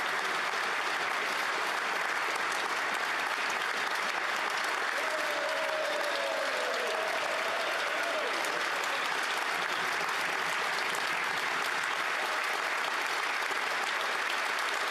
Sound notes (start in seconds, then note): 3.1 applause